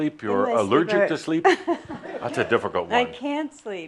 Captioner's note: a few chuckles